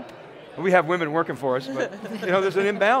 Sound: laugh

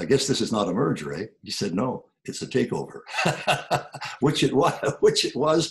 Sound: laughs

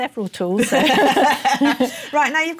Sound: laughter

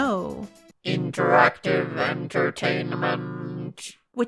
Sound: robot voice: "INTERACTIVE ENTERTAINMENT"

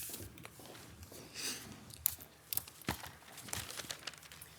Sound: papers rustling; footsteps clicking; papers rustling

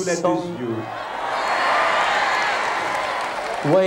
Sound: crowd cheering boisterously

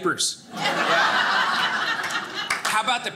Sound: audience laughing

